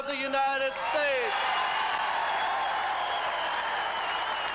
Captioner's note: wild cheering and applause